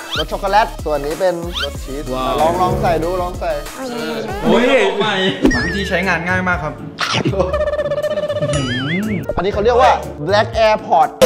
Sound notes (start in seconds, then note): 4.4 Pat; 6.9 chuckles